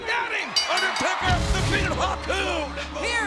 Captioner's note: bell rings